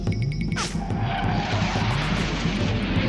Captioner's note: jet engine whooshing